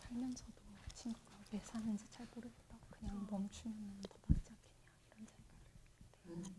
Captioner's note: translator speaking in Korean